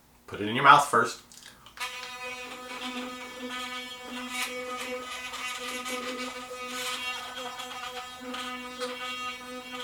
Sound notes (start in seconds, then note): 1.7 muted toothbrush motor buzzing